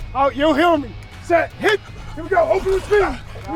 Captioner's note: coach claps